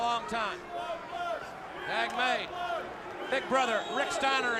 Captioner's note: crowd chatter